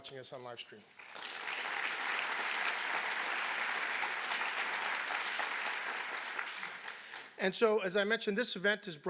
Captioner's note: applause